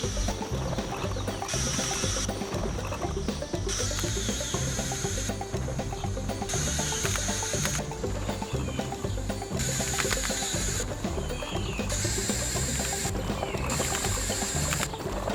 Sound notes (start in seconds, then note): 3.7 whirring increases